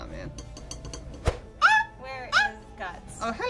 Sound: squeaking

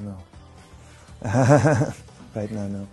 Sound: laughs

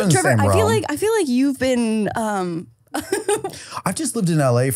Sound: laughing

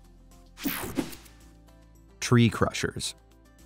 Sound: air whooshing

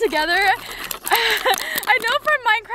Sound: sticks rubbing; laughter

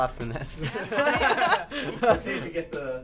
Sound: all laugh

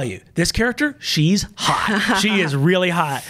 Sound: laughs

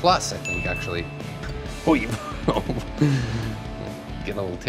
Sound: sputters and laughs

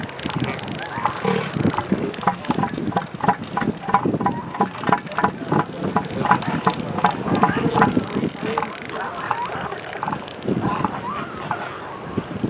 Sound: booming vocalization; distant seal squawks and calls

